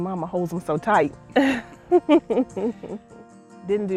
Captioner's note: laughing